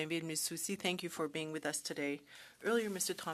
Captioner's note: speaking French